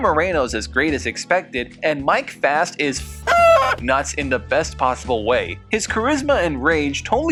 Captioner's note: cluck